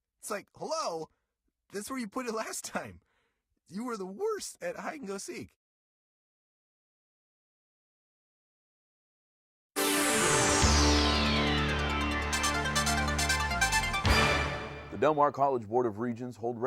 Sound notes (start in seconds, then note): 9.9 whooshing; 12.9 techno music